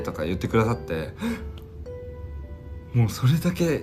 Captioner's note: gasp